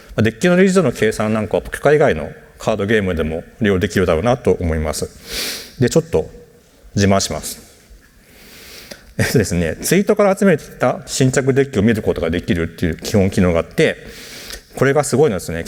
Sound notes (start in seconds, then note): 8.0 chuckles